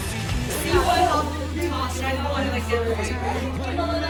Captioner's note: general clamor